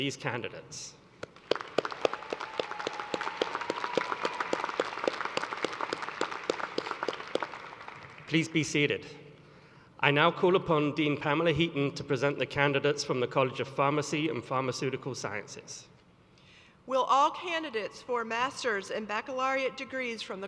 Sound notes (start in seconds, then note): 5.2 cheers and applause